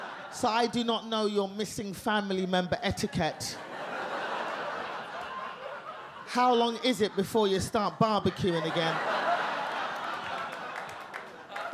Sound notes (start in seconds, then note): 4.1 audience laugh; 9.2 audience laugh